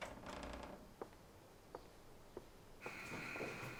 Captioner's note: door creaking